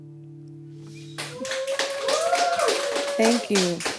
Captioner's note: background clapping and cheering